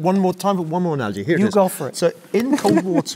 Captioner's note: laugh